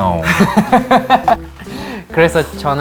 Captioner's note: satisfied laughter